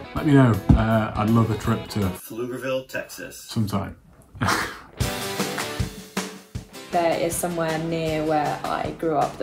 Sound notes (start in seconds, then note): 4.3 laughs; 4.9 upbeat music